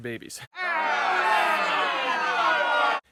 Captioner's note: crowd booing